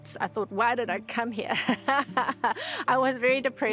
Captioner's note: laughs